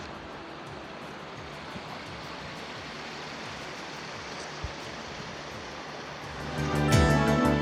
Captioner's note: river sounds; upbeat Music